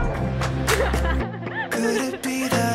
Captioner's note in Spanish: chicas riéndose